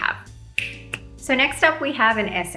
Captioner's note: thumb snapping